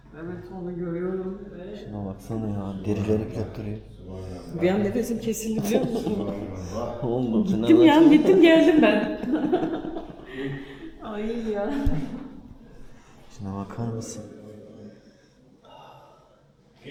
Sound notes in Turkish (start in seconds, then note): 8.4 kahkaha